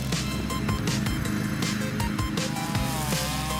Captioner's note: engines humming